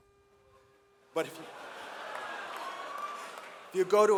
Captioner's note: audience laughs